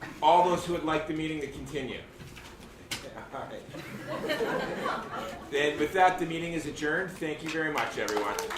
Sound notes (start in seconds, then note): 3.3 attendees laughing loudly; 7.1 attendees clapping loudly